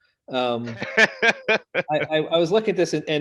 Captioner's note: laughter